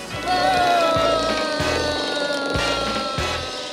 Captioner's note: clicking